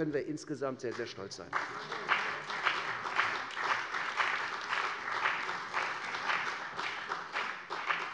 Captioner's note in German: Beifall bei der CDU und dem BÜNDNIS 90/DIE GRÜNEN